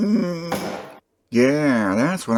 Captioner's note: pop